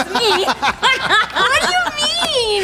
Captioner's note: laughter